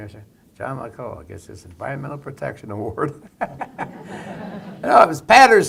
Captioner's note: laughter